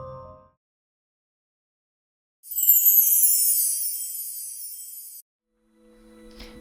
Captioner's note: sparkle Sound Effect